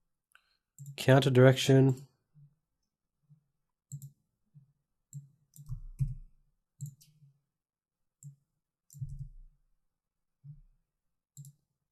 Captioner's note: silence